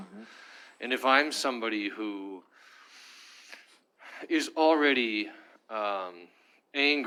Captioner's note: sighs